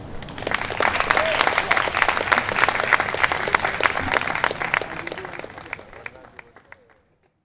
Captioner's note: applause